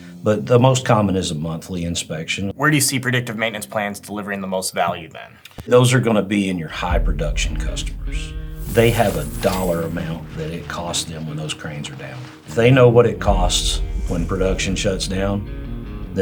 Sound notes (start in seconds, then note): 8.6 bills whooshing; 9.7 coins rattling